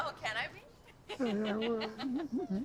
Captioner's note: laughs